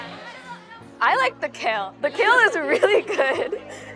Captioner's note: laughs